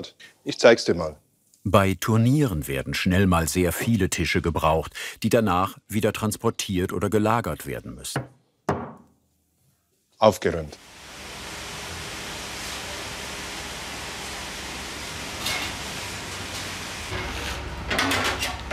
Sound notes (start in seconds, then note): 10.8 hissing